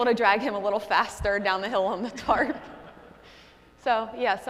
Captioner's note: laughing